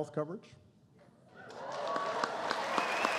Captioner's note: applause